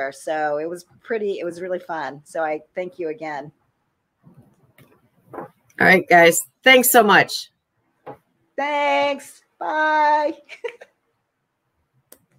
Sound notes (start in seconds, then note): 10.5 chuckles